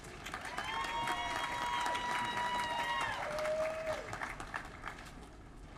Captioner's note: applause